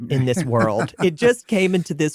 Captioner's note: laughing